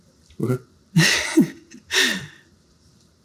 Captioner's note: laughs